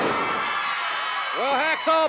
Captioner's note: audience cheering